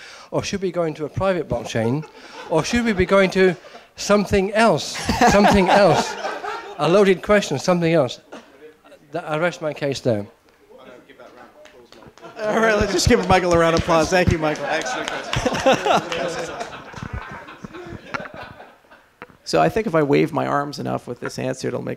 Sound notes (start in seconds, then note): 12.9 applause; 16.5 laughs